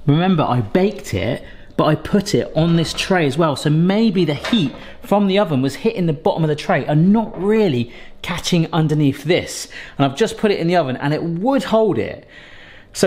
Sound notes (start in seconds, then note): none